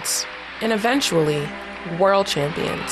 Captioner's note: soundbite of archived recording